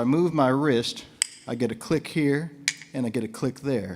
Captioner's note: bones click